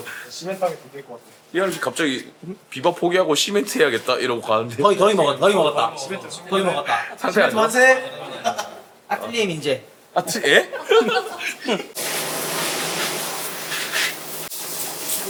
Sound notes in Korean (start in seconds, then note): 10.3 웃음